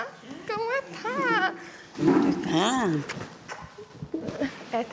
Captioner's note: speaking Spanish